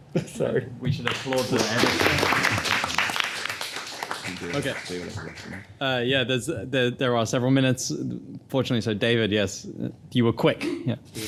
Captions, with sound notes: Sorry. - We should applaud to that. (everybody applauding) Okay. Yeah, there are several minutes fortunately. So David, yes, you were quick, yeah.